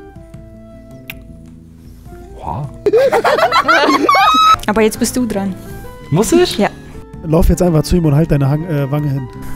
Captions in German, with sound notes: (Romantische Musik) Boah! (Kreischendes Kichern) Aber jetzt bist du dran. - Muss ich? Ja. - Lauf jetzt einfach zu ihm und halt deine Wange hin.